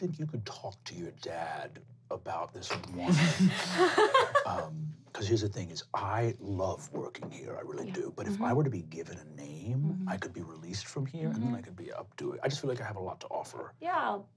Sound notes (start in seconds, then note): 2.6 laughing